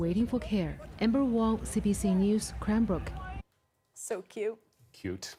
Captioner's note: cheering